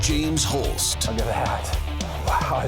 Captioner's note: voiceover